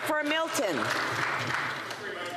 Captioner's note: applause